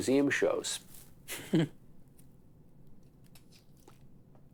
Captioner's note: laughs